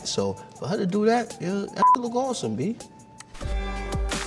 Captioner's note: beep; hip hop music